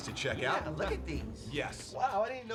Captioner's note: laughs